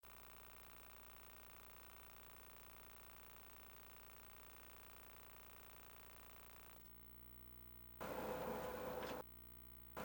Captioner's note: static